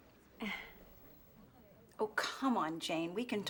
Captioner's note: sighs